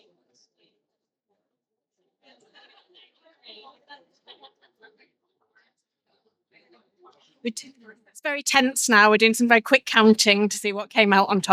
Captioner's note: laughter